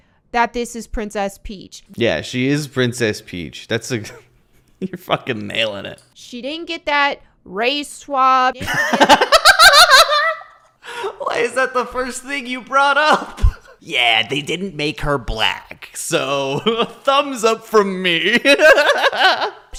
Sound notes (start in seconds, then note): 4.2 giggles; 8.6 laughs; 18.2 laughs